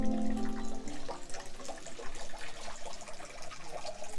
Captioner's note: sound of water